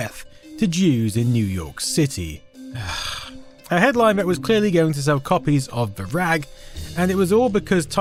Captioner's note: sigh